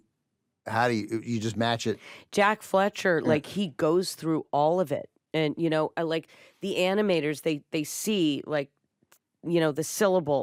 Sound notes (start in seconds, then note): none